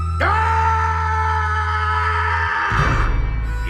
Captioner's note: shouting